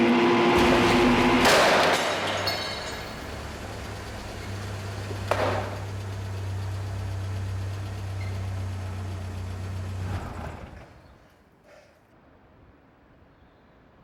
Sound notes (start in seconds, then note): 0.5 engine rumbling; 0.5 vehicle crashing